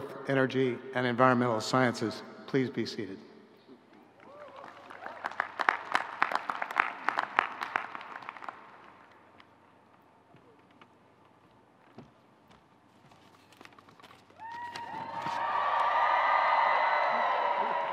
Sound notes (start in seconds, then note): 4.2 audience clapping; 14.4 audience cheering